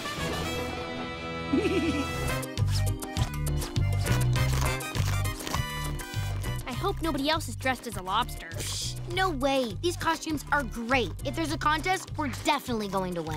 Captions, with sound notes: [giggling] I hope nobody else is dressed as a lobster. Pssh. No way, these costumes are great. If there's a contest, we're definitely going to win.